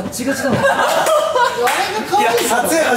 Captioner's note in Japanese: 笑い